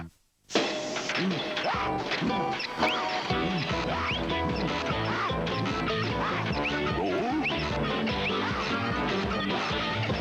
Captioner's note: upbeat music; creak